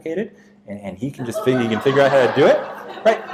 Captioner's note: audience laughs